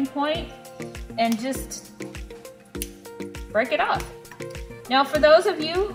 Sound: snapping

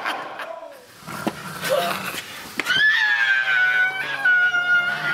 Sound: all growling; Crystal screaming

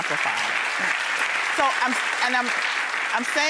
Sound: clapping

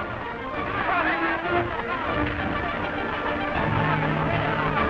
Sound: crowd yelling

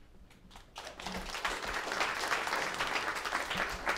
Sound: applause

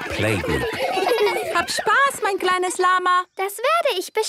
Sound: laughter; speaking German

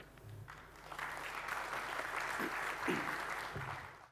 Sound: applause

